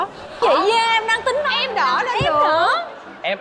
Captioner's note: laughing